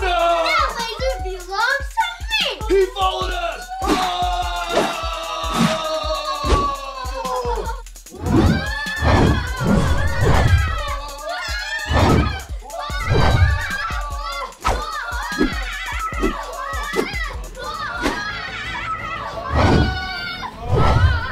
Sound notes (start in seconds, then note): 11.4 excitement on Rollercoaster; 15.4 adventure Music